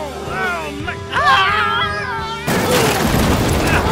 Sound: screaming

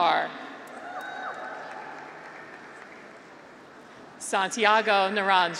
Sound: graduates cheer

